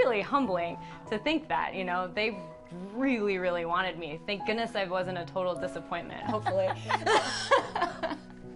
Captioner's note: laugh